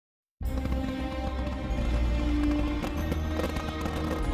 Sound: fireworks crackling as orchestral music plays

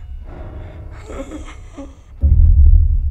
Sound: grunts quietly

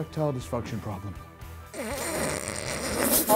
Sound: snickering

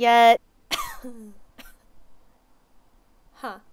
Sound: cough cough

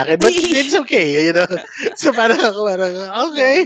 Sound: laughs

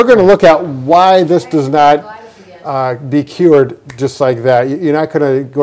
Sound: fingers snap

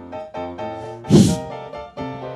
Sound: hissing sound

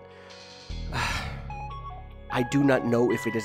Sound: sighs

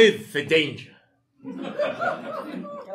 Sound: audience laughing

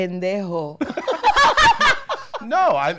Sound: all laughing

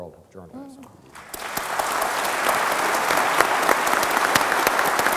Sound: audience applauds

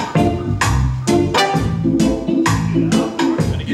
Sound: toot!

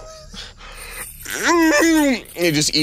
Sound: Pagliacci groaning

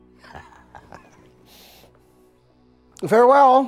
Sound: chuckles

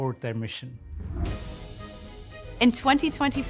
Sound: intense music; air whooshing

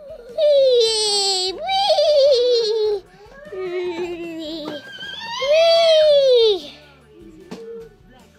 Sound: kid making elf noises

